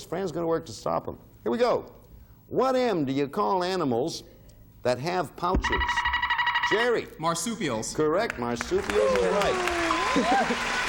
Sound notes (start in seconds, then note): 5.6 buzzer beeping